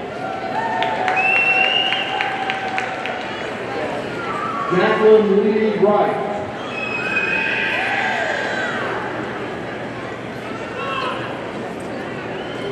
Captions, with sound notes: (audience cheers and applauds) Jaclyn Leigh Wright, (audience cheering)